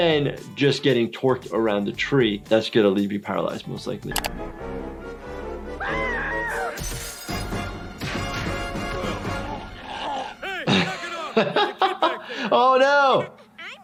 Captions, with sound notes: Then, just getting torqued around a tree. That's gonna leave you paralyzed, most likely. (screaming) (glass shatters) (laughing) Oh, no!